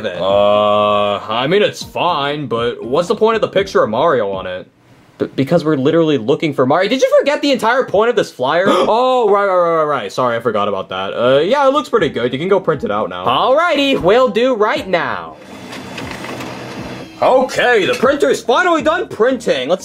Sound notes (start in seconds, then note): 15.4 printer whirring